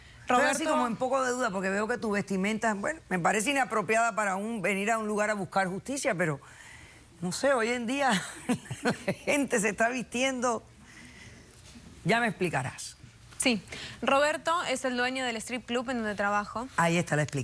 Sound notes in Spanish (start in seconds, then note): 8.3 risas